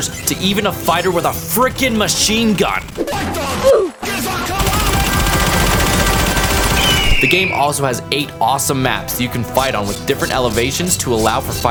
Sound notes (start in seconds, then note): 2.8 game character shooting; 2.8 hawk screaming